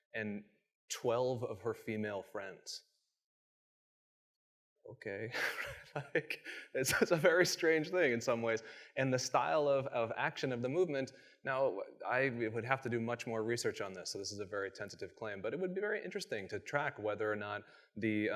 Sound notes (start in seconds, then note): 5.3 chuckles